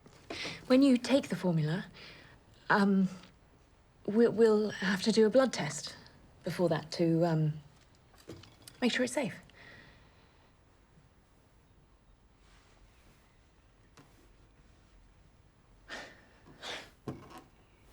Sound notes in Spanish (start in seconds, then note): 15.9 Jim suspira